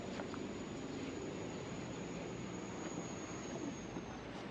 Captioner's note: wind howling